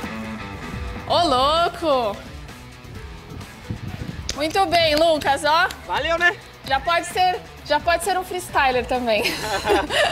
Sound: laughs

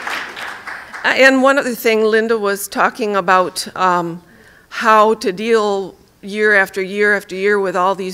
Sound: applause

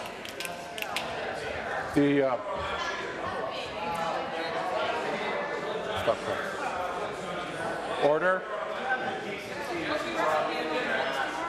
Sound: applause

